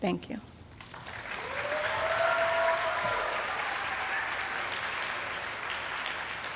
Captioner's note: audience applauding and cheering